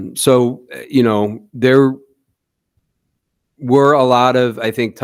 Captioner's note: none